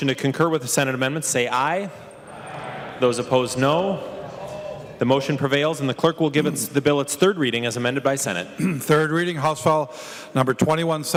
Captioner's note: chorus of ayes